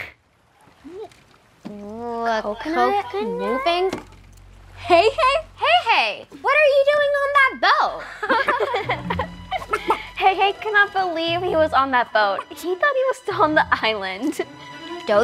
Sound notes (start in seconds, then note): 8.0 everyone laughs